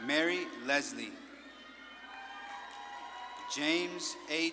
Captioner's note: audience claps and cheers